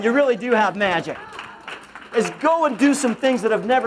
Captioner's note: applause